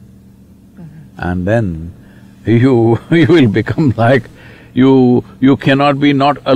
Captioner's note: laughs